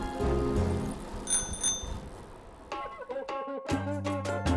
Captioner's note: bicycle bell dings